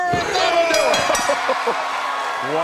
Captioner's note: bell ringing